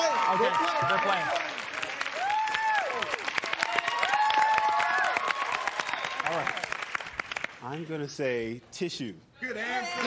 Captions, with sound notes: -We'll play. We'll play. -Okay, they're playing. (cheers and applause) -All right. -I'm going to say tissue.